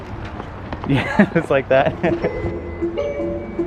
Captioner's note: laughs; playful music